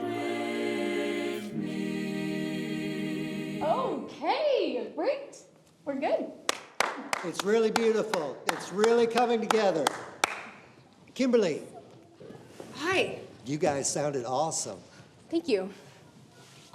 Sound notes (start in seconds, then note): 6.5 Pastor Roland claps heartily